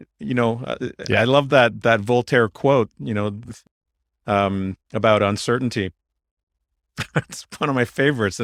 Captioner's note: laughs